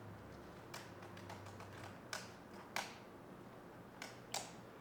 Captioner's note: keyboard clicking